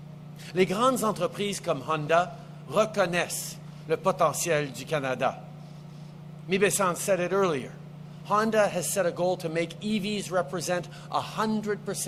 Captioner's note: speaks French